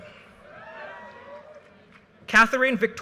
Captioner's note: audience cheers and applause